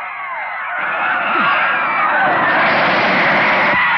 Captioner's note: crowd screaming